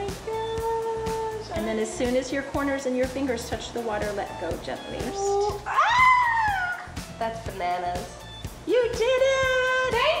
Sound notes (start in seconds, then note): 5.2 shrieking